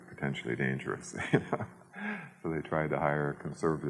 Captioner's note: chuckles